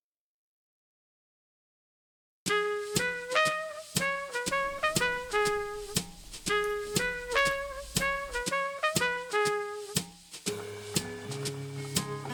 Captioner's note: needles Click; jazz Music Plays